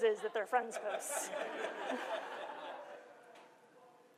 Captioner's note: laughter